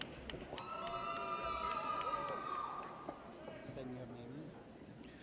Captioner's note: audience cheers